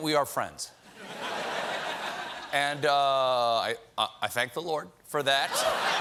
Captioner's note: laughter